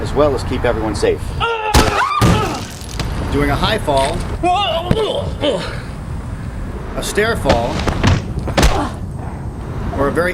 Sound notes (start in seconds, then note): 1.4 loud screaming; 1.5 faint thudding; 5.3 grunting; 7.4 faint thudding